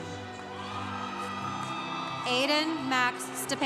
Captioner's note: congregation cheering